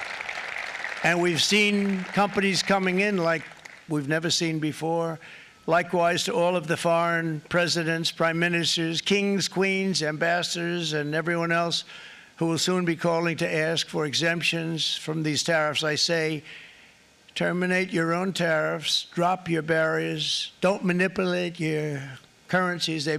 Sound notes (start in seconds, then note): 5.7 applause